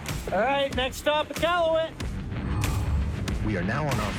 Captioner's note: text whooshes